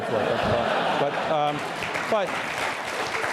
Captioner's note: laughter, applause